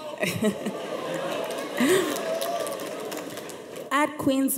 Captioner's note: audience laughs